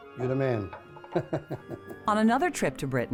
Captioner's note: laughs